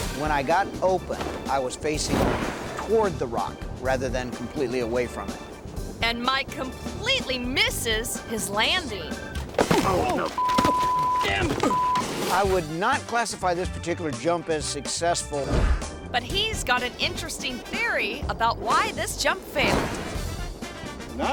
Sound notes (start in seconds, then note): 9.3 thuds; 10.3 beep; 19.3 parachute swooshing; 21.1 bright music